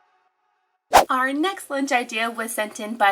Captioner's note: slide whooshing